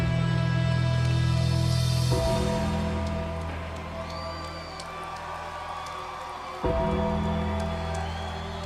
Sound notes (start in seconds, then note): 2.2 bell tolls; 2.3 audience cheering